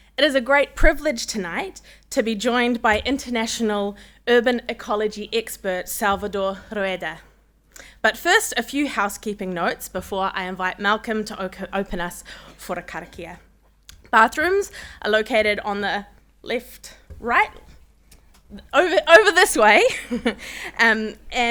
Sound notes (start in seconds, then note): 12.1 speaking Maori; 19.5 laughs